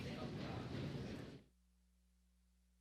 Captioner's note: applause